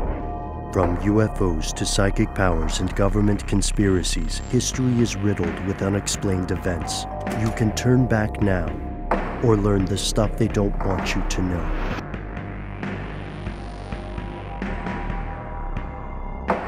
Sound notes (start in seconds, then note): 0.8 voiceover; 12.1 suspenseful industrial music